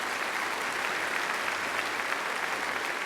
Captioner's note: applause